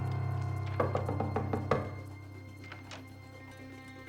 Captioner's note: knocking on door